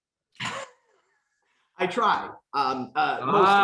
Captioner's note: laughs